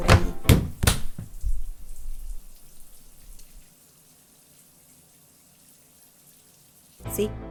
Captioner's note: shower sounds